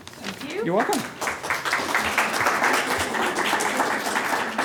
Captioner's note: applause